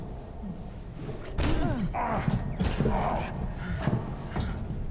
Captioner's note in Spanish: Ambos gruñendo